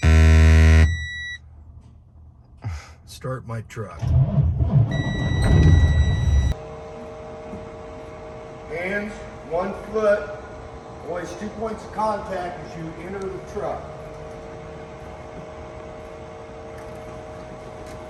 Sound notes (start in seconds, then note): 2.1 warning alarm beeping; 3.9 engine starting